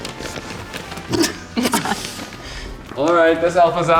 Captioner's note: gifts crunching; lips smacking; both chuckling